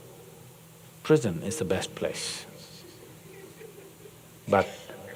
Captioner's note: few laugh